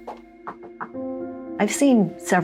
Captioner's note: footsteps; Knocking